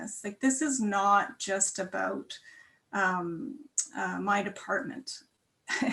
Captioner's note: chuckles